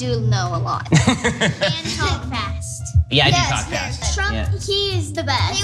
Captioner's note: laugh